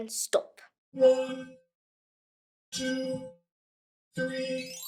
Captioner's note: robotic Voice